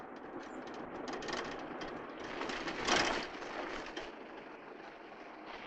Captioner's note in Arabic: صوت خشخشة محرك السيارة